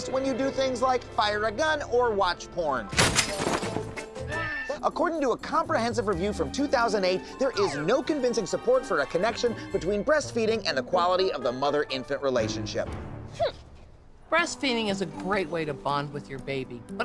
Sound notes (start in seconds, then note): 2.9 gunshot